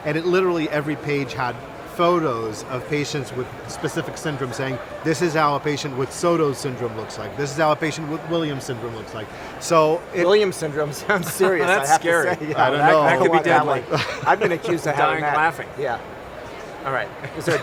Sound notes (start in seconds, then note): 11.1 laughs; 17.3 laughs